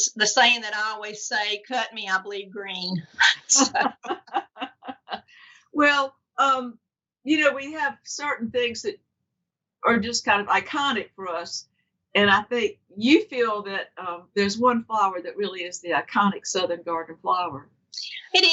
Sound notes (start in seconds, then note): 3.2 both laugh